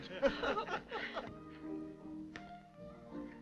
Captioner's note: laughing